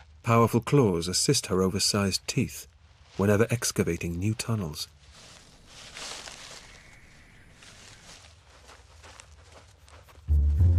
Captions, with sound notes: Powerful claws assist her oversized teeth whenever excavating new tunnels. (rustling)